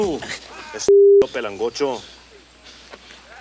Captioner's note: speaks Spanish